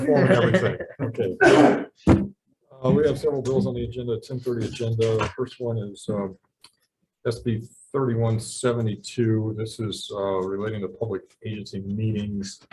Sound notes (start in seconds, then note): 1.6 man laughing